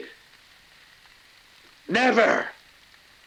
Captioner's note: rain pattering